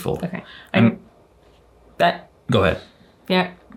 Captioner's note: stammers